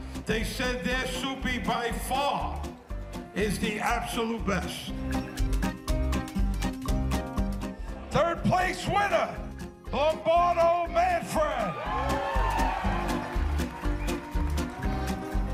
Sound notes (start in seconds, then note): 11.3 audience cheering